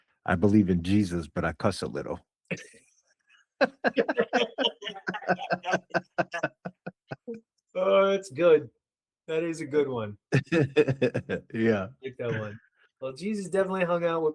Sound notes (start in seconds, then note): 3.6 laughing